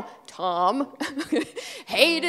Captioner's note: laughing